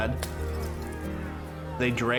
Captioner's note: glass shattering, shouting